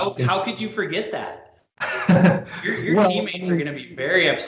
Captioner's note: laughs